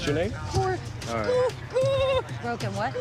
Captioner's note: crying